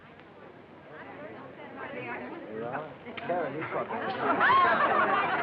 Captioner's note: chatter